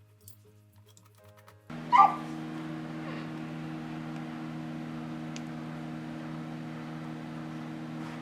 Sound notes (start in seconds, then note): 1.8 dog barks